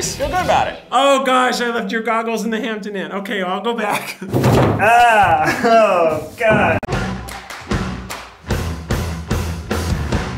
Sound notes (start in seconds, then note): 4.8 laughs; 5.9 upbeat intro music